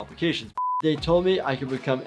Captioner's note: high pitch beep